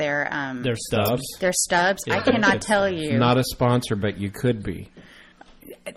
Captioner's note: laugh